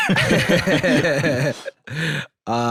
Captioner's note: both laughing